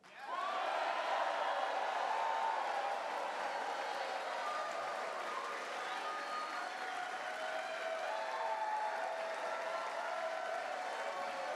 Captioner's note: cheers